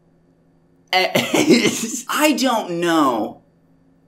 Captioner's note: laughs at the question